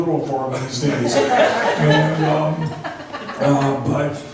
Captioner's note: laughs